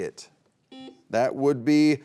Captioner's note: beep